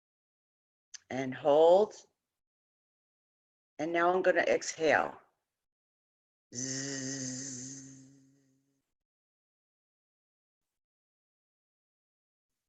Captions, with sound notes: and hold and now I'm going to exhale *buzz*